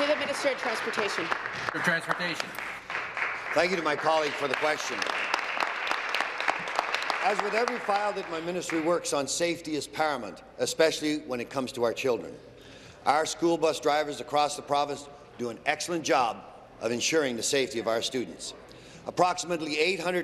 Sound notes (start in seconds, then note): 0.0 applause